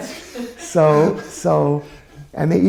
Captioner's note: chuckles